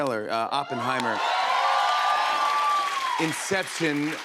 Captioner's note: cheers and applause